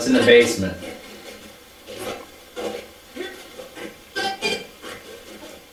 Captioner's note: static playback transmitting